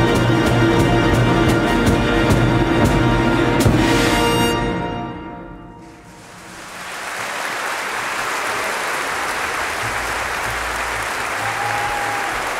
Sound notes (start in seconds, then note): 5.8 applause, cheers